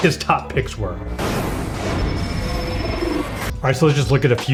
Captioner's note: dramatic effects